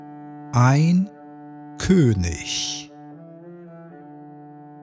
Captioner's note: german